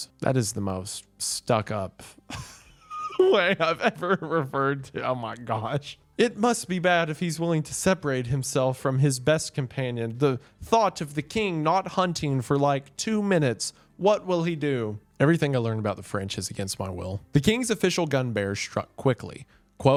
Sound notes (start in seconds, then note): 2.3 laughing